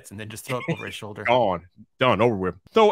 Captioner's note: chuckles